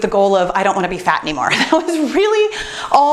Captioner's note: laughs